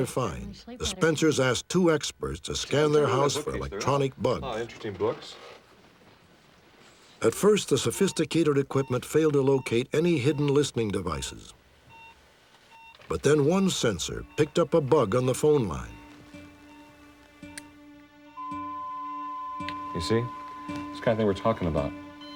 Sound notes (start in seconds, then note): 18.1 beeps